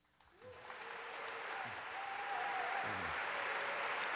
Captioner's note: applause